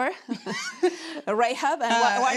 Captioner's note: laughing